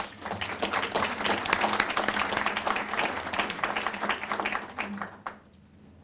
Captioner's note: applause